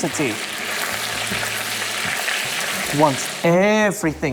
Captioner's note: sizzling sound